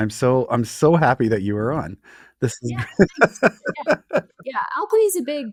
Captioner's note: chuckling